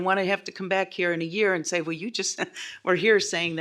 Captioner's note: laughs